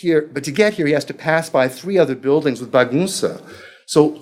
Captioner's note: speaking foreign language